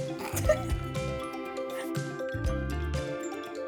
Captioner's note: chuckles